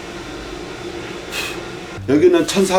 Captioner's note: blows